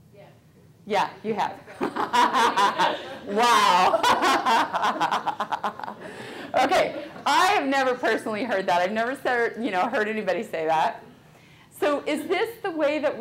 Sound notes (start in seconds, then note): 1.8 audience laughing; 4.1 laughing